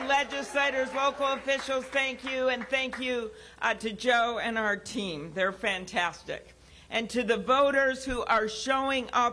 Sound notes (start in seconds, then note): 0.0 cheering